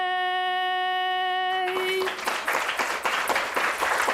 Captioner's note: applause